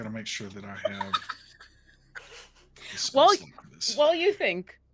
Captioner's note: laughing